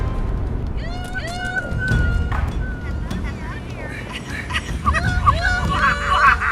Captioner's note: ghostly voice